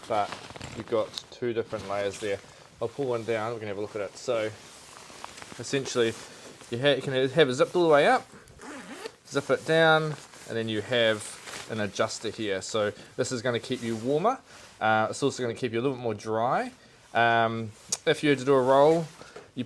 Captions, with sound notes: but you've got two different layers there. I'll pull one down, we're gonna have a look at it. So essentially you can have it zipped all the way up, (zip swishes) zip it down, and then you have an adjuster here. So this is gonna keep you warmer. It's also gonna keep you a little bit more dry. If you had to do a roll,